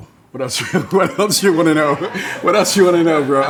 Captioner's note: laughing